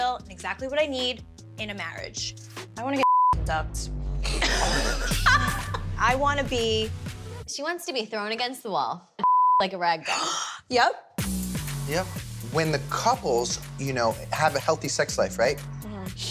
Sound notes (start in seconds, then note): 4.3 laughing